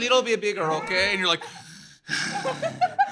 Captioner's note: deep breathing